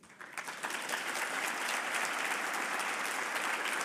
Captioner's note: audience applauding